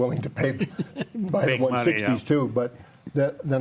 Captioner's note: panelist laughs